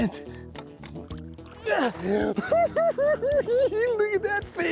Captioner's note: cackling